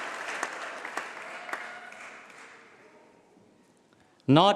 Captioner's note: applause